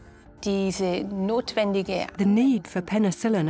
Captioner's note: speaks German